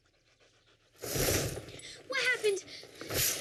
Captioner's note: curtains whoosh